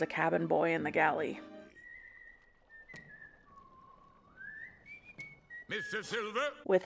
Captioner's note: ominous whistle